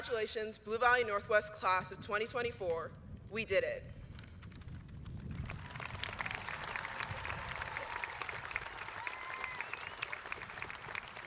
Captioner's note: applause